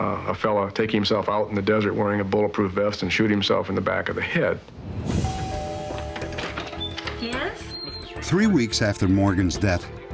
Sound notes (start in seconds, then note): 5.2 doorbell rings